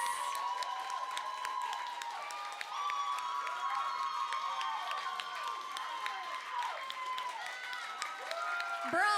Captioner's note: applause